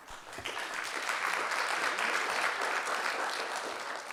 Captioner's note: audience clapping